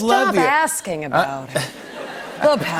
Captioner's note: laughter